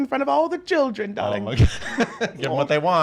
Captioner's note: laughs